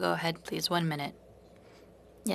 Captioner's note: speaking French